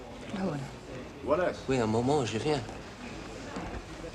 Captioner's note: speaking french